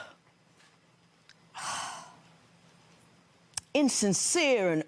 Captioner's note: sighs